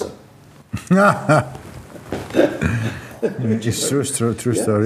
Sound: laughing

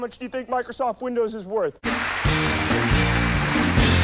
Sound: applause

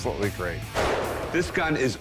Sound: gunshot

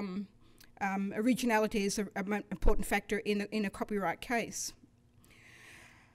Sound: none

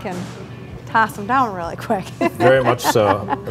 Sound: laughs

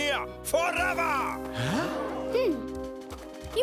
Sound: crowd gasps

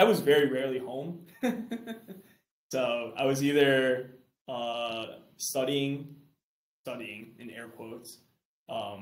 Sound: chuckles

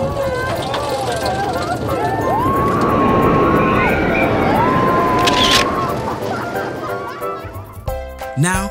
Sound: roller coaster rumbling, screaming passengers and a camera flash

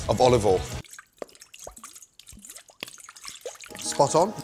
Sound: oil sloshing

